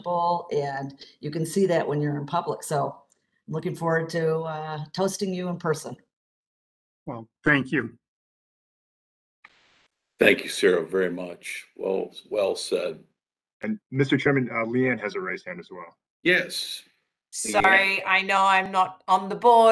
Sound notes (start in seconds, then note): 7.1 A pause